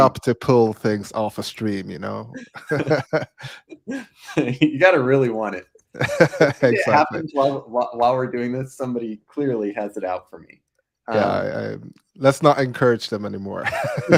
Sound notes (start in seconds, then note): 2.3 both laughing; 5.9 laughing; 13.6 both laughing